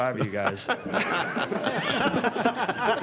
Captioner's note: laughter